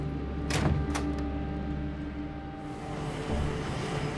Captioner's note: door thudding